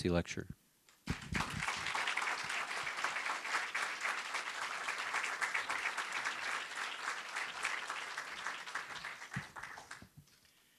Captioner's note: applause